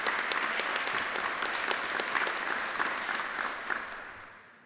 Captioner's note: audience applauding